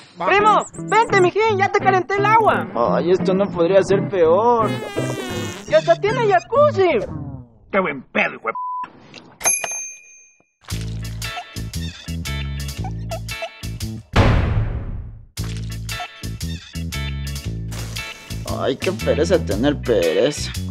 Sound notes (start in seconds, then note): 4.6 fart